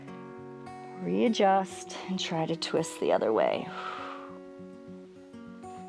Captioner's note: exhales